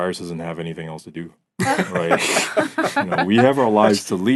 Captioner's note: laughing